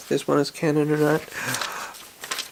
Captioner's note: gasp